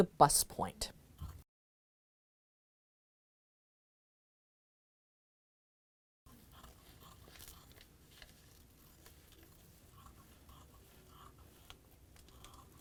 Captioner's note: no significant sound